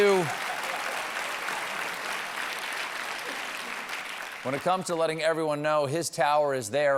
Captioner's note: applause